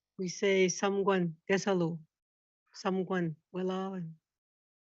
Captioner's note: speaking foreign language